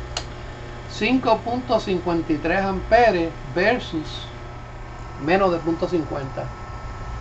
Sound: amps

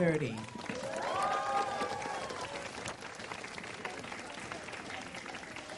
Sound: applause

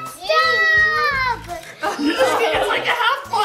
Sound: laughing

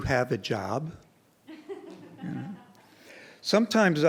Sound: audience laughing

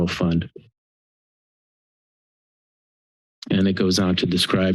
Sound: pause

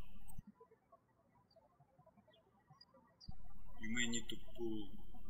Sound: birds chirping

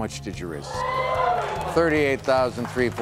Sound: audience gasps

